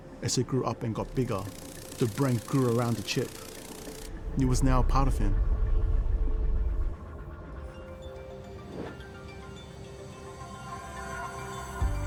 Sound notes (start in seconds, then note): 8.6 air whooshing